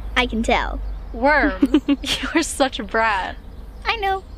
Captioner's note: Grace laughs